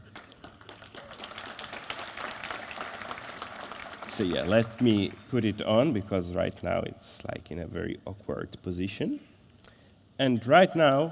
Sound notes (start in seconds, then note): 3.1 applause